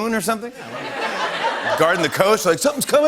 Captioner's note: laughter